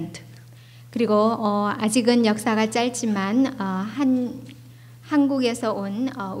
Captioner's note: speaking foreign language